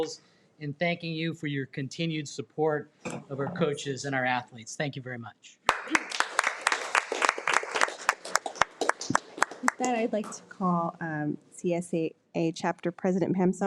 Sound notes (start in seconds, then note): 5.6 audience clapping